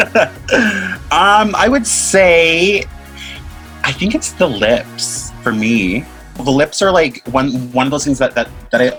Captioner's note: both laugh